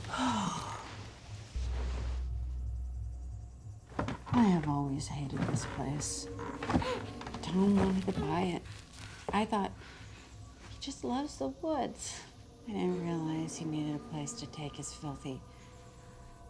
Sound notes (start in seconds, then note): 0.0 Jeanette sighs deeply; 6.8 Candace grunts